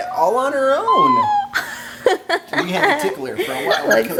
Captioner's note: laughing